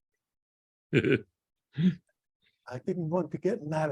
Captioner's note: laughs